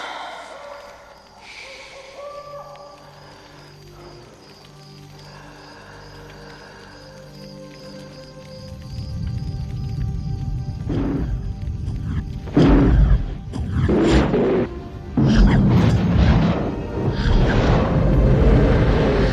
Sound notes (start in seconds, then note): 0.0 Turtles sigh; 3.7 mystical music; 9.6 fire crackles